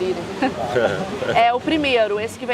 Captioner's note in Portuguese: risos